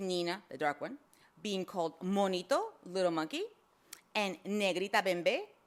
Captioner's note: speaks foreign language